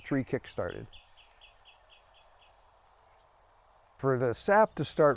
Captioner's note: bird chirping